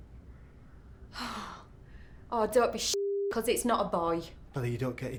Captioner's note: sighs